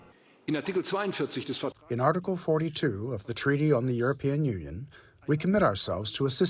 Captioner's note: through translator